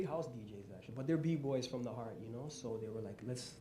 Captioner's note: none